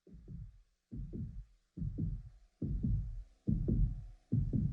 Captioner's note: heart beating